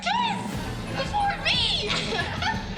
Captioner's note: laughing